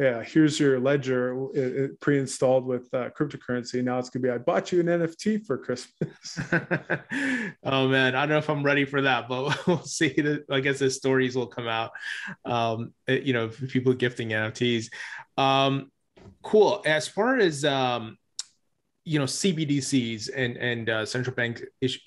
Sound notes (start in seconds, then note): 6.0 both laugh